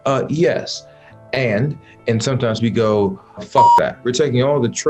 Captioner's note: beep